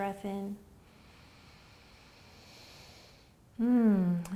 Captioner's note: inhaling